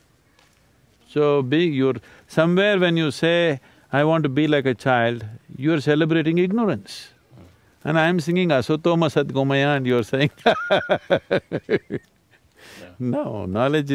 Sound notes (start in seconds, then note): 10.2 laughs